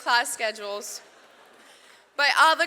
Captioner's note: audience laughs